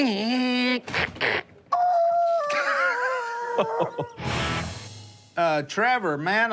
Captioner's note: squeals